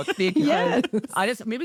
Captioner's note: everyone laughs